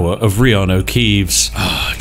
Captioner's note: satisfied sigh